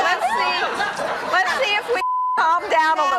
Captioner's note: beeping